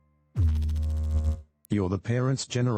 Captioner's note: electrical noise